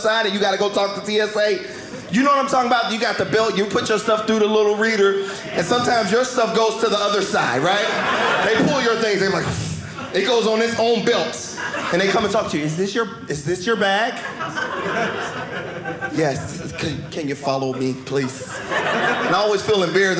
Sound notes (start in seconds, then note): 14.0 audience laughing